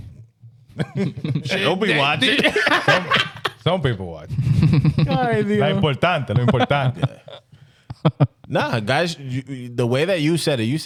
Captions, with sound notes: Don't be watching. (Laughing) Some people watch. (Laughing) (Speaking In Foreign Language) Nah, guys, the way that you said it, you